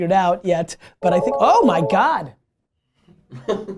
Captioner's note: phone rings; laughter